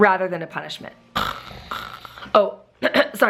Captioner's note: pretend snoring